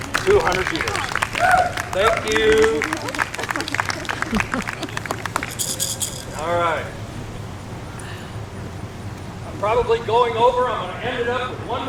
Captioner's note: applause